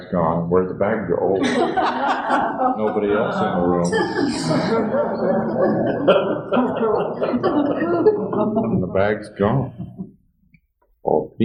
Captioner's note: laughter